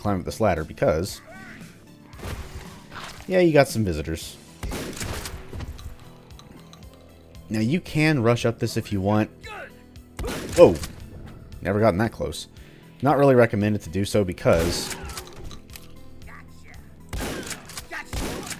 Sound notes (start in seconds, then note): 4.4 gunfight/chatter continues; 10.1 boom; 17.1 more gunfighting